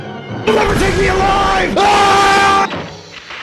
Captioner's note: scream